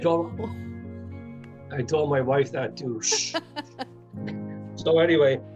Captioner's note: chuckling